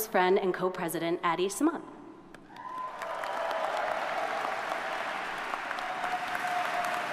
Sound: audience cheers and applauds

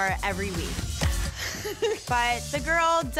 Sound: laughing

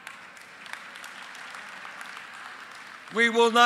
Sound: applause

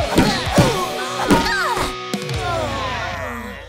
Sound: grunting; groaning

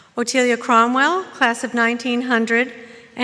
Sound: none

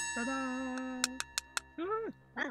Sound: ding sound

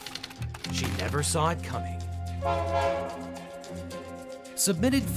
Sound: train horn honks

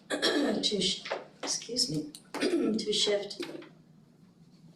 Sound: clears throat

